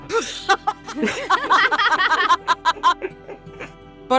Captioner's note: EVERYONE laughs